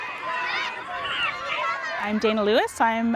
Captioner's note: children cheering